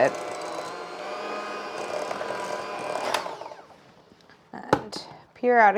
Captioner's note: mechanical whirling intensifies